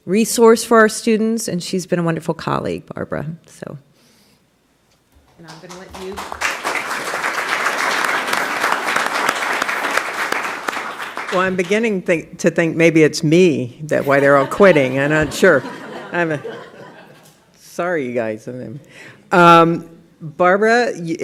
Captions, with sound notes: SHE'S BEEN A WONDERFUL COLLEAGUE, BARBARA. SO --. I'LL LET YOU --. [APPLAUSE] >> I'M BEGINNING TO THINK MAYBE IT'S ME. I'M NOT SURE. SORRY, YOU GUYS.